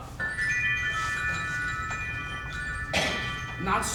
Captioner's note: enchanting bells